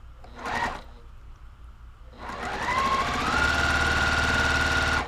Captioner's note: sewing machine whirring